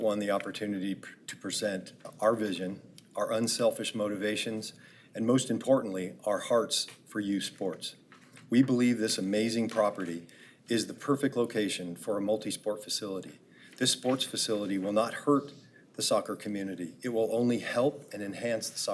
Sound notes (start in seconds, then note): none